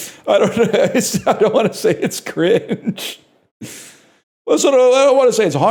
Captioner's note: between laughter